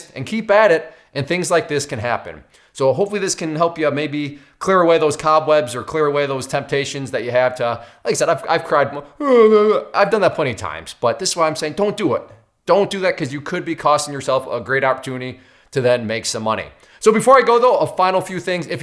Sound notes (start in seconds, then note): 9.1 imitates sobbing